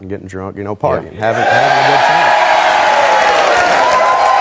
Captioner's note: audience cheering